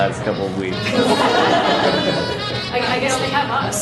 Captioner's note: laughter